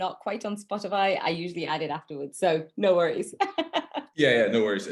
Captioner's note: laughs